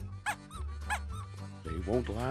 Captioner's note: squeaking